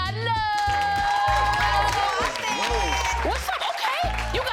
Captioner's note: crowd cheers and claps